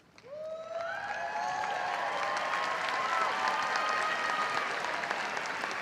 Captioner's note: audience cheering and applauding